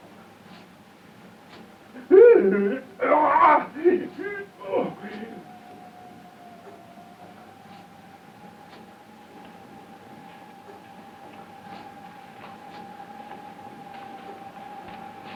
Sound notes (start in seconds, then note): 2.9 Paul shrieking; 5.6 suspenseful music